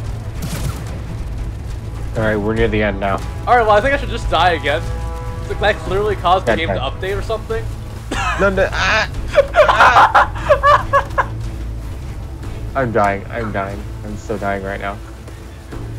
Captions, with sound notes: Alright, we're near the end now. Alright, I think I should just die again. That clearly caused the game to update or something. Okay. No, no— aaugh— AAUGH [Insane laughter] I'm dying. I am dying. I'm still dying right now.